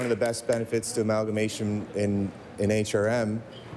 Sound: applause

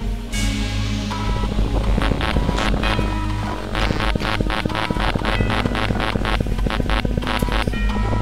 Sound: various undefined computer sounds

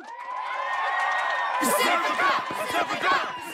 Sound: all cheer

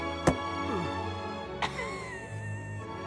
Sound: laugh

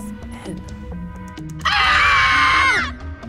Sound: screaming

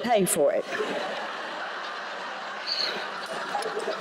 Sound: laughter

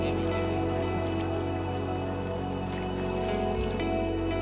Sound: people chatter

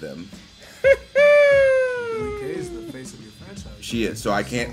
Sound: laugh

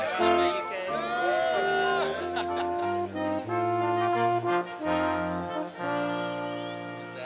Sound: students cheering

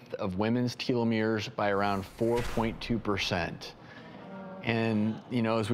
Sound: groaning

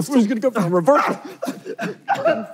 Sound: laughing; groaning

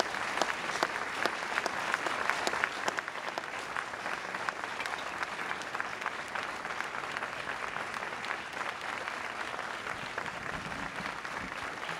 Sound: applause

